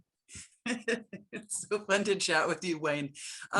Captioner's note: laughing